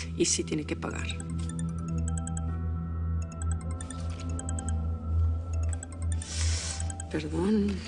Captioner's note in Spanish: Suena el celular